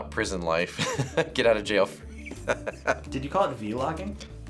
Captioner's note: chuckles